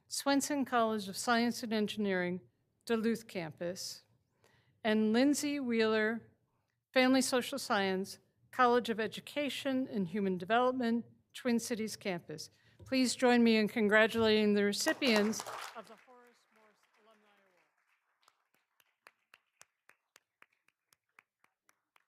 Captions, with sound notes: Swenson College of Science and Engineering, Duluth Campus. And Lindsey Weiler, Family Social Science, College of Education and Human Development, Twin Cities campus. Please join me in congratulating the recipients of the Horace Morse Alumni Award. (all applauding)